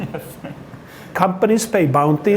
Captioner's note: laughs